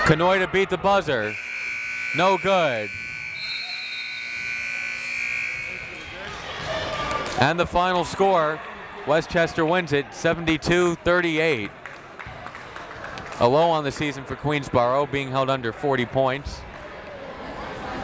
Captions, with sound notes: Kanhoye to beat the buzzer. No good. (buzzer ringing) (whistle tweeting) And the final score. Westchester wins it. 72-38. A low on the season for Queensborough, being held under 40 points.